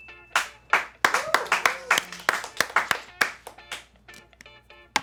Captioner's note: bell chimes; crew cheers and applauds